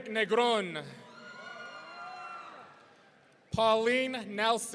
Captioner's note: audience cheering